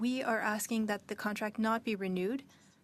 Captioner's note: speaking French